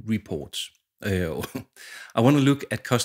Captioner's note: chuckles